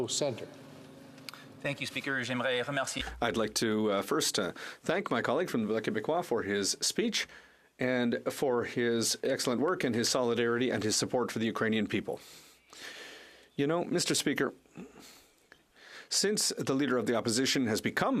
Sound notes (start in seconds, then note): 8.4 speaking French